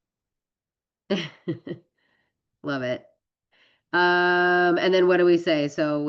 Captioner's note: laughs